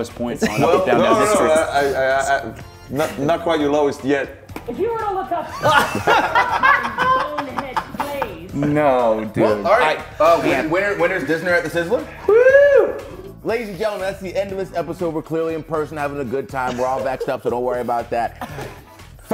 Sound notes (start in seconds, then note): 5.3 laugh